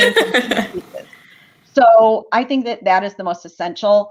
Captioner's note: laughter